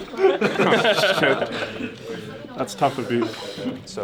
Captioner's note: laughs